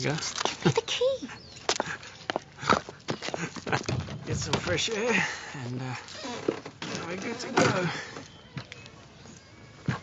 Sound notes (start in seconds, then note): 3.2 laughing and snorting